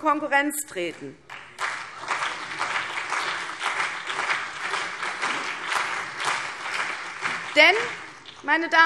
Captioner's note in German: Beifall CDU und BÜNDNIS 90/DIE GRÜNEN